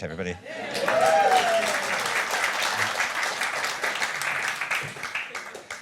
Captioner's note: applause